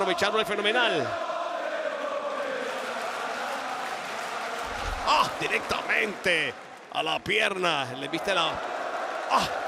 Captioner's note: applause